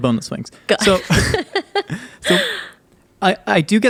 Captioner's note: both laughing